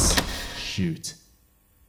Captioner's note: doorclose